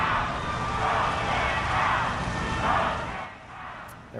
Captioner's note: chanting